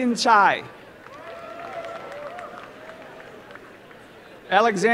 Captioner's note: applause